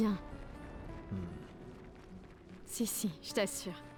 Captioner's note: sceptical grunt